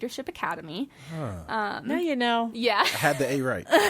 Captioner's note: laughs